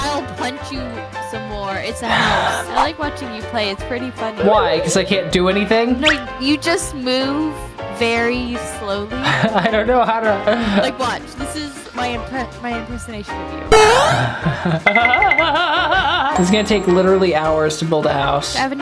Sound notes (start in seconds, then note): 13.7 laughs; 13.7 video game noises